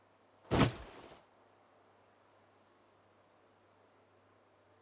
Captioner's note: none